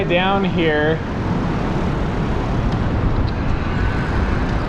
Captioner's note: wheels whirring